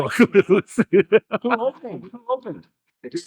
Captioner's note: laughing